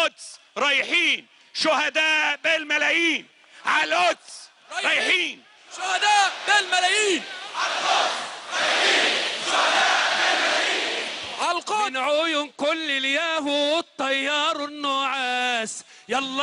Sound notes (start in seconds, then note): 8.2 crowd chanting slogan